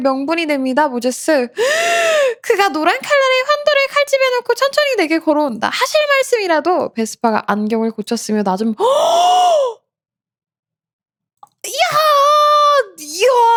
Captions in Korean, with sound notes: 명분이 됩니다. 모제스 [헉 소리] 그가 노란 칼날의 환도를 칼집에 놓고 천천히 내게 걸어온다. 하실 말씀이라도 베스파가 안경을 고쳤으며 낮은이야이 [헉 소리][비명]